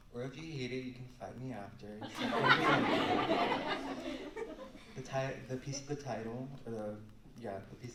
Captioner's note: laughter